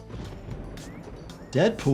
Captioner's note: upbeat music; thunder rumbling; person wolf-whistles